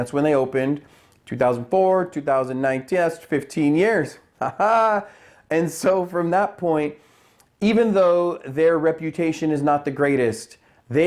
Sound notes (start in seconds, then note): 4.4 laughs